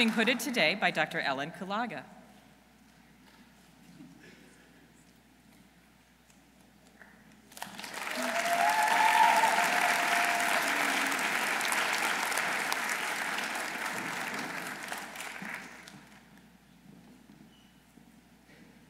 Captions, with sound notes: Who is being hooded today by Dr. Ellen Kulaga. -(audience cheering) -(audience applauding)